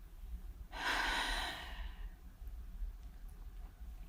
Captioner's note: sigh